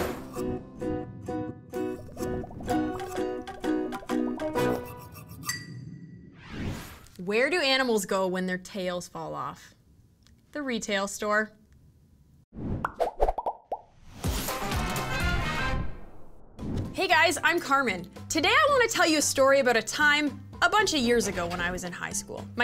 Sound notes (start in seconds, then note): 0.0 upbeat music; 12.9 bubbles popping; 14.4 upbeat music